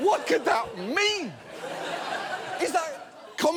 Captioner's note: audience laughs